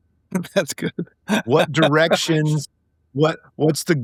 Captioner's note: laughing